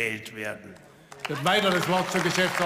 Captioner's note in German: Beifall